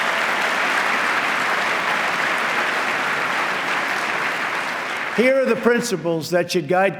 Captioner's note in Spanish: aplauso